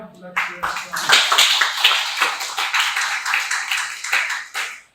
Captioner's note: applause